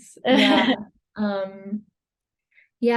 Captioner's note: laughs